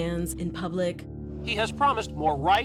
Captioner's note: soundbite of archived recording